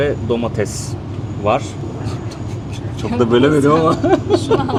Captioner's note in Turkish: kahkaha